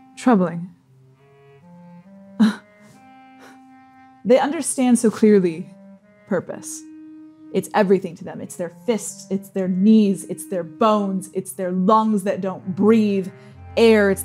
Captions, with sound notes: troubling. [scoffing] They understand so clearly. Purpose. It's everything to them. It's their fist. It's their knees. It's their bones. It's their lungs that don't breathe air.